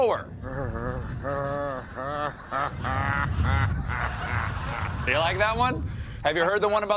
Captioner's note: weird slow laugh